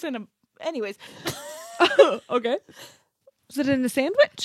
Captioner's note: laughs